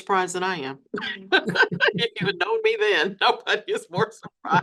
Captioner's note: laughs